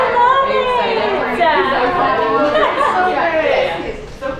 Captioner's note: women murmuring